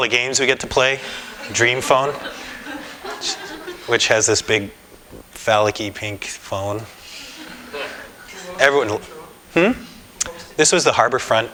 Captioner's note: laughter